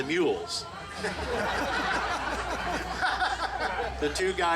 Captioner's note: group laughing